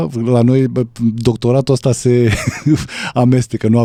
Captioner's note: laughs